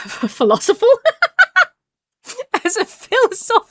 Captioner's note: laughs